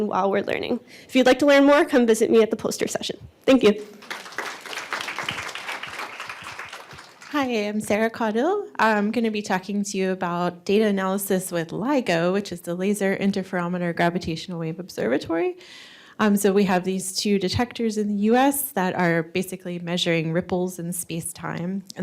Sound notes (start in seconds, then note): 3.8 applause